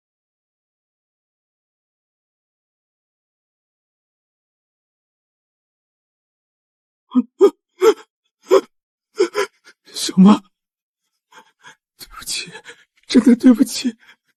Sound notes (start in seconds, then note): 7.1 cries